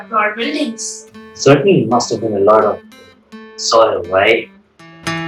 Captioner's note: haha